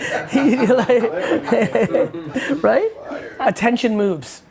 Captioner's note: laughing